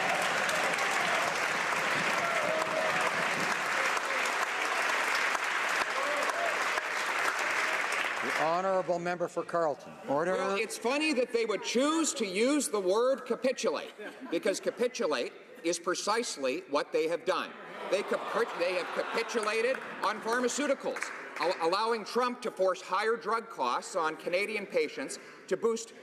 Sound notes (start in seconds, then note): 7.8 applause